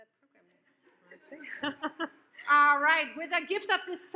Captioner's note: laughs; audience laughs